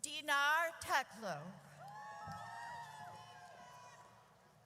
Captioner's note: audience cheers